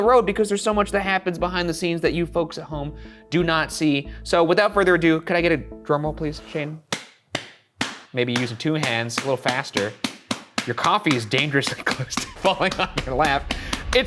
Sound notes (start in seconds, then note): 6.9 hand slapping